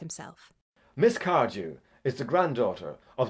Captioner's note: in a clear, cold voice